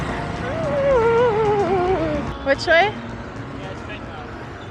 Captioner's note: anxious noises